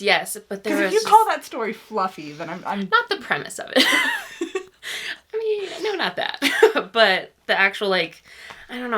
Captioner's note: laughs